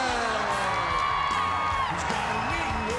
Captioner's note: crowd cheering